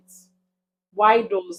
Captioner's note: paause